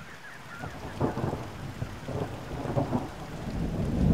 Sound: thunder rumbling

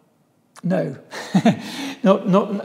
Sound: laughs

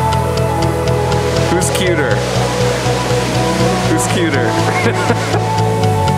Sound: laughs

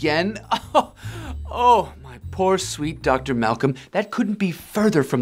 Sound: laughing

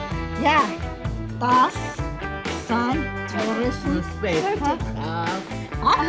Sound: in Armenian

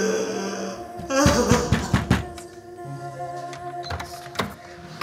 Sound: knock bangs on door

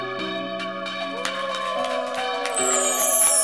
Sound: wedding guest cheering

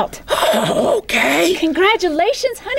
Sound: chuckle

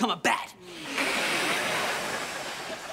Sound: hissing

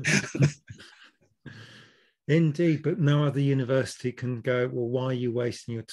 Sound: laughs

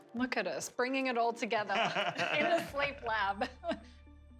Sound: laughter

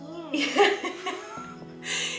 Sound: laughing

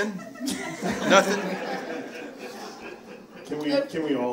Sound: audience laughing

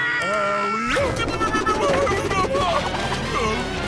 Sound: screaming; grunting

